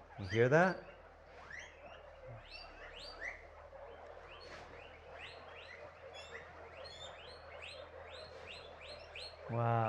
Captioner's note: guinea pigs chirping